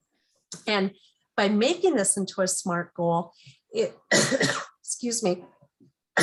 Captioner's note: coughs